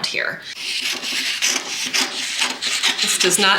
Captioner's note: paper rustling